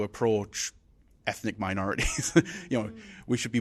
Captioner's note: laughs